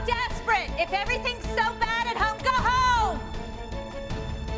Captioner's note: yelling